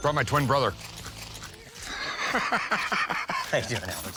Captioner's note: laughs